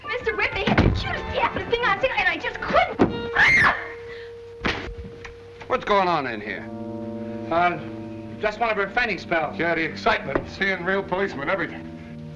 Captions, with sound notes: Mr. Webb, they had the cutest thing I've seen and I just couldn't... (SCREAMING) What's going on in here? Just one of her fainting spells. Yeah. The excitement of seeing real policemen, everything.